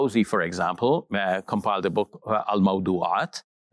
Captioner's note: speaks Arabic